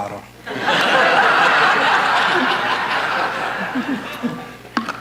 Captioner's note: audience laughing